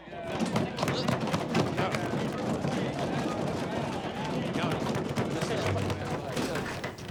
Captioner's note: hands thudding